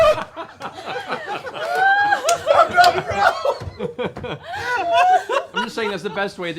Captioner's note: laughter